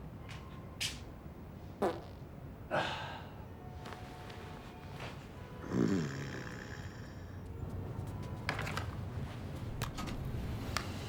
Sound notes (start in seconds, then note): 1.8 gas passing; 5.6 snoring